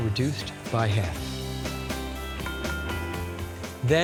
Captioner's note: pan ringing